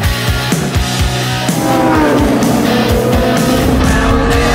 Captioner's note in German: auto beschleunigt